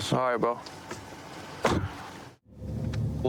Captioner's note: car door closes